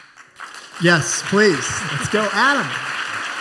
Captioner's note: applause